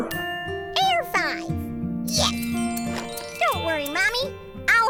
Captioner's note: chimes tinkling